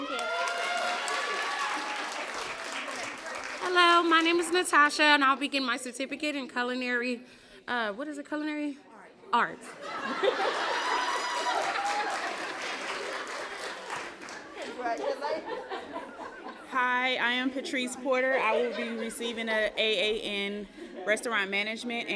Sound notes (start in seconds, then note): 0.0 applause; 10.2 cheering, applause